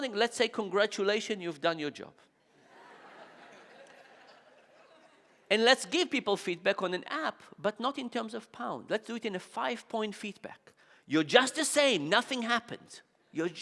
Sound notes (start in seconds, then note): 2.6 audience laughing